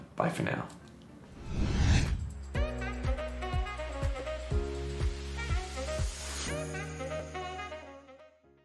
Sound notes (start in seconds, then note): 1.3 graphic swooshing; 1.5 upbeat music